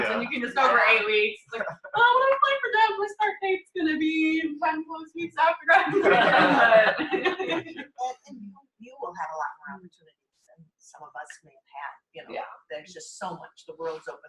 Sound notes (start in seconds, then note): 5.8 laughter